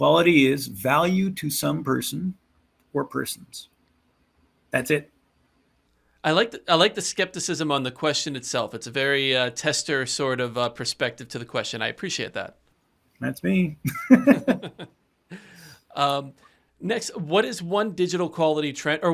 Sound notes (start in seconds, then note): 13.8 laughter